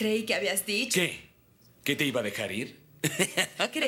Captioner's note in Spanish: Risos